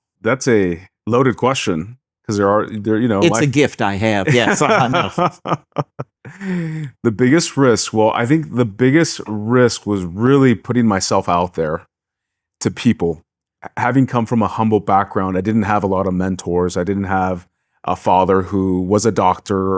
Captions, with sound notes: That's a loaded question. Because there are, you know, like- It's a gift I have, yes, enough. (laughing) The biggest risk, well, I think the biggest risk was really putting myself out there to people. Having come from a humble background, I didn't have a lot of mentors. I didn't have a father who was a doctor